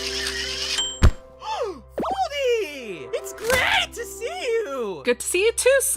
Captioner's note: gasp